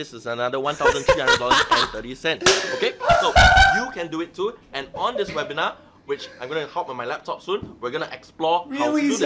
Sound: laughing

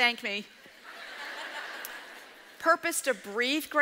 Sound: audience laughs

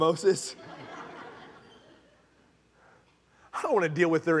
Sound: congregation laughing

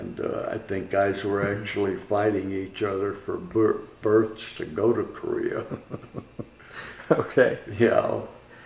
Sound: laughter

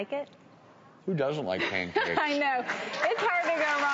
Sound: laughs; crowd applauds

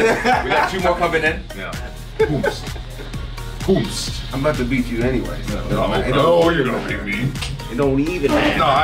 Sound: laugh

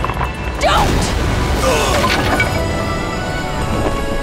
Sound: grunting

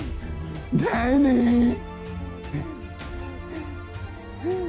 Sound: panting

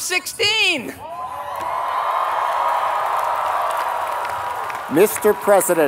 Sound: applause

